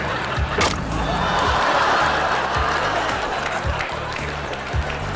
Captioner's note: audience laughs